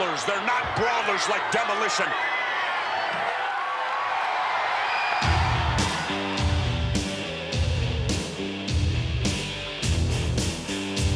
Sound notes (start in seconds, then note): 4.4 crowd cheering; 5.2 upbeat rock music